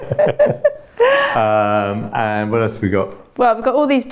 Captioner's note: laughing